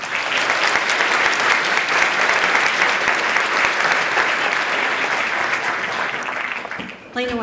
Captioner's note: applause